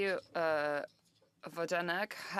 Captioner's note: speaking French